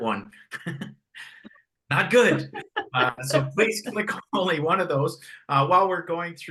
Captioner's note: haha; haha